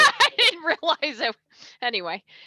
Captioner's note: moderator 1 laughs